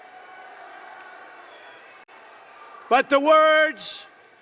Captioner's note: applause